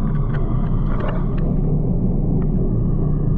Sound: chewing on her raincoat

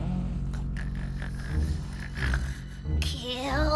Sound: honk-Shoo, Honk-Shoo, snoring sounds, et cetera

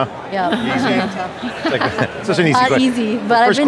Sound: laughing

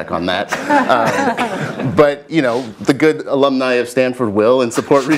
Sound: laugh

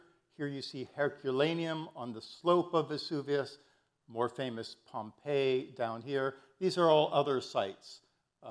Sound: none

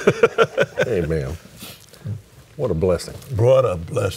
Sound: laughs

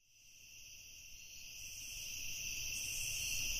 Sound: crickets

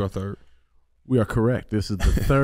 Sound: Iman chuckles

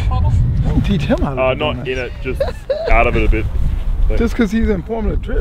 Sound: laughs

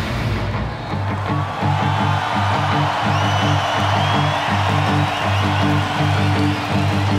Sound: intense rock music; audience cheering; audience applauding

